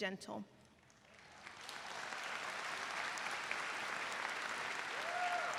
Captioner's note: audience applauds